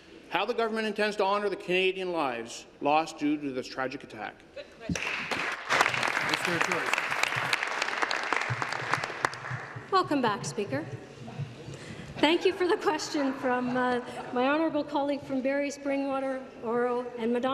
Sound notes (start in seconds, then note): 8.0 applause